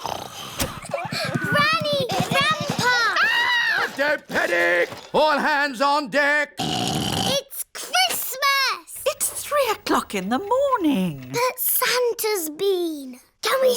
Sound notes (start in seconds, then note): 0.0 snoring; 3.1 screams; 6.6 snorts